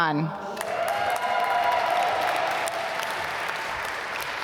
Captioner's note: applause